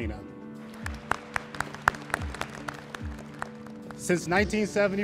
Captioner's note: all applauding